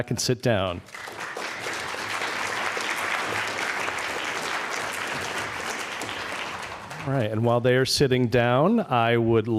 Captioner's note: applause